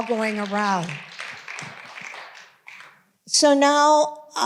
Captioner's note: audience applauding